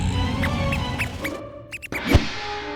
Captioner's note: mouse squeaks